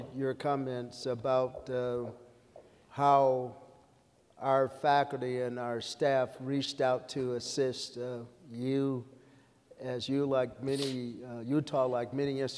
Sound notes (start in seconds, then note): none